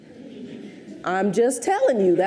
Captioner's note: audience chuckles